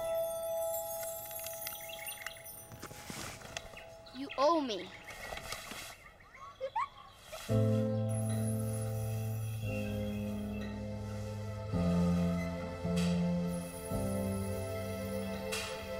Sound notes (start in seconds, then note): 0.0 bright music; 6.5 Sunny giggling; 9.9 dramatic music